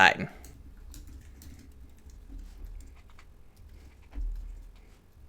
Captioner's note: keyboard keys clicking